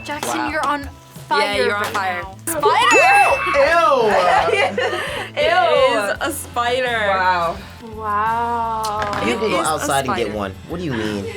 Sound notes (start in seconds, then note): 2.5 laughs; 2.8 screams